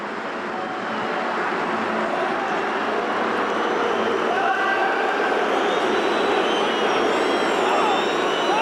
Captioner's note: crowd booing